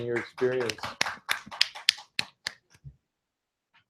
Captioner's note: applause